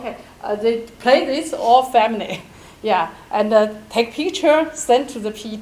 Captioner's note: chuckles